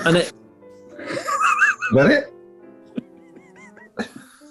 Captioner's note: sniggering; sniggering